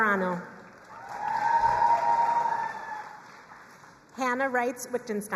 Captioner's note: crowd cheering and applauding